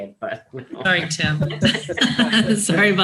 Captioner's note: group laughs